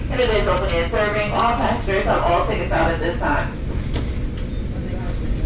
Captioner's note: female announcement